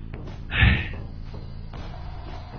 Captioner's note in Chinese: 生活不易 嘆氣